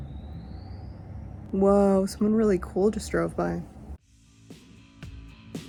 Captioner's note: loud car noise